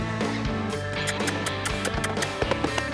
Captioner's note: squeaky sounds